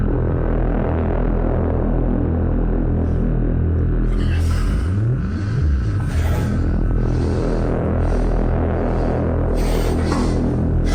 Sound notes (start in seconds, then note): 4.0 Commander Gray panting; 4.6 eerie atmospheric music